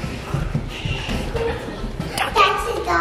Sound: shushing

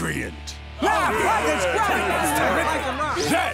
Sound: clamoring

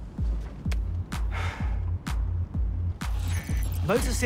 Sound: sighing

